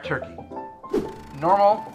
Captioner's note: air whooshing